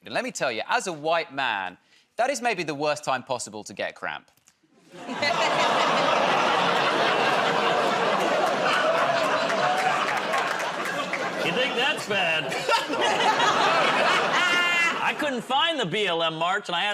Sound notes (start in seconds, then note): 5.0 laughter; 8.8 audience "Oh"s